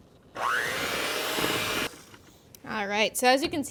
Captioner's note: mixer motor revving